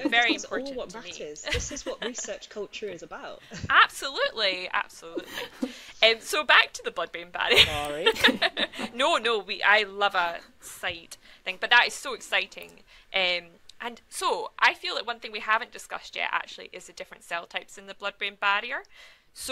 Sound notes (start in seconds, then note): 7.5 laugh